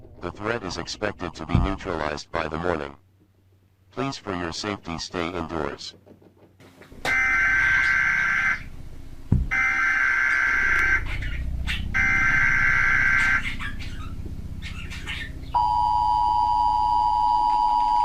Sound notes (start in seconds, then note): 7.3 TV buzzing; 15.5 TV beeping